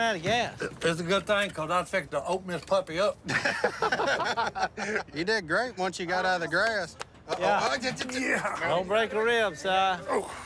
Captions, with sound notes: It's a good thing because I was fixing to open this puppy up. [laughter] You did great once you got out of the grass. - Uh-oh. - Yeah. Don't break a rib, Si. Oh, good grief.